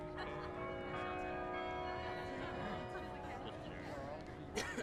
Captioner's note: bells chiming